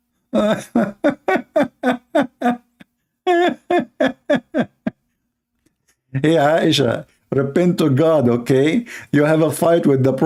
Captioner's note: Ketawa